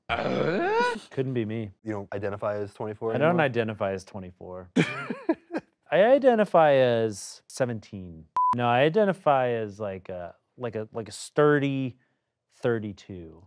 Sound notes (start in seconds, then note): 0.2 voiceover; 4.7 laughs; 8.4 audio beeps